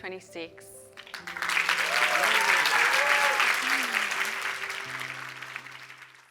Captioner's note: cheers and applause